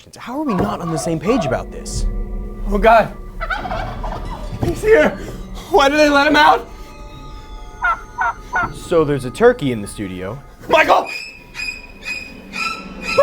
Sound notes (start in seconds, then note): 3.4 turkey gobbles; 3.4 turkey gobbles again; 7.8 turkey gobbles; 11.1 horror music